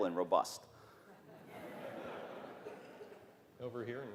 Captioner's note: laughter